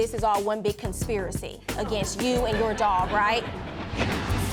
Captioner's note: audience laughs